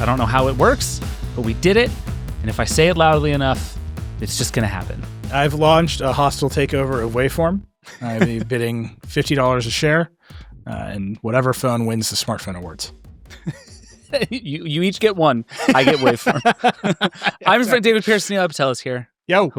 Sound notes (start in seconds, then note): 13.3 laughing